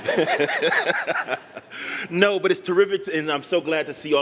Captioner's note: laughter